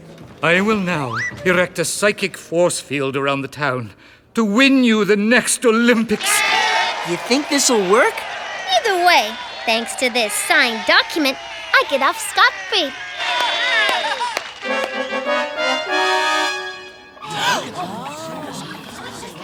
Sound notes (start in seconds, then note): 5.7 crowd cheering; 14.4 fanfare playing; 17.2 audience gasping and murmuring